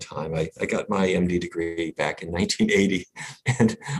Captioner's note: laughs